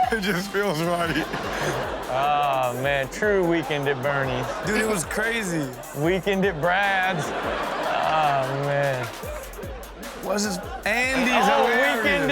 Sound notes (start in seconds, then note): 0.0 Steelo laughs; 7.1 audience laughs